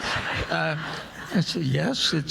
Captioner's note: audience laughing